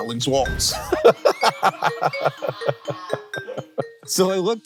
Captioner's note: everyone laughing